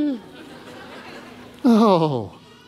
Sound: congregation laughing

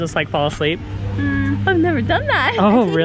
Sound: laughs

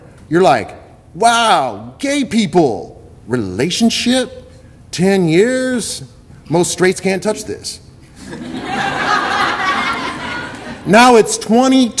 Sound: audience laughter

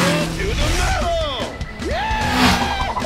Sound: screams

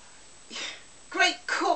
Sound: sigh

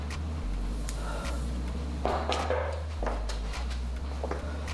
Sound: visitor knocks

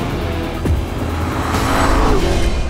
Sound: pronografic V-8 noizes y'all

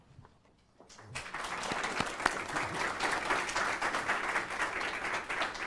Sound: audience applauds

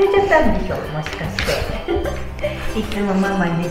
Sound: laughs

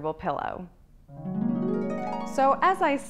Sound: chimes

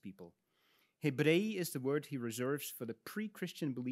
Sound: speaks in Latin

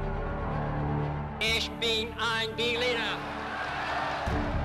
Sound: crowd cheers

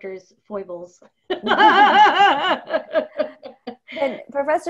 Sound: laughing

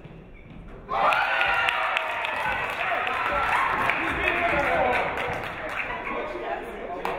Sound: audience cheering; audience clapping

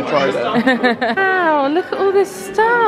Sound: laughing

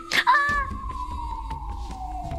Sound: shouting in fear

